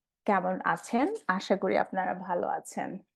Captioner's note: speaking bengali